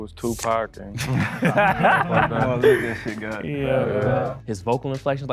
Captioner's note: men laugh